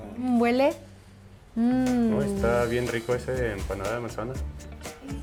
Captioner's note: speaking Spanish